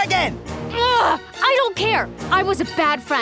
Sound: grunting

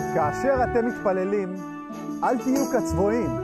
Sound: speaking in Hebrew

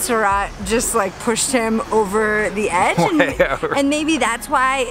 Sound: chuckling

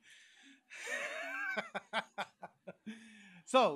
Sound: laughs

